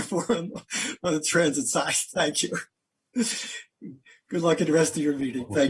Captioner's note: laughter